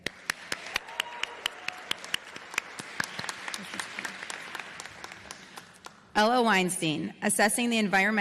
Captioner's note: applause